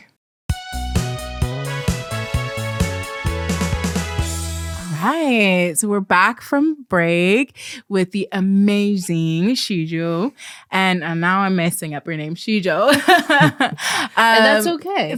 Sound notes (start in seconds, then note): 0.5 interstitial music plays; 9.3 incorrectly emphasized